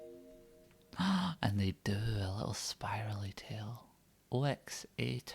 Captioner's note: gasp